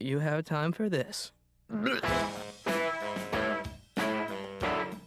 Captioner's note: throws up